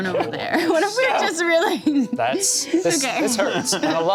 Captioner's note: laughs